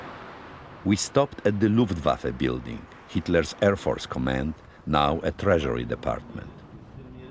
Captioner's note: voice-over